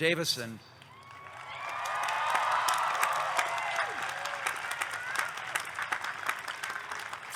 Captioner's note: audience clapping; audience cheering